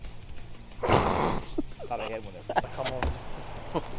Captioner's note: cameraman laughs